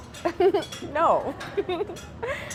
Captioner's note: laughs